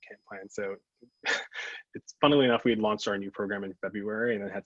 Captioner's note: laughs